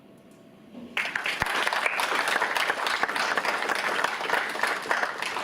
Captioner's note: audience applauds